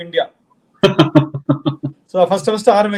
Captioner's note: laughs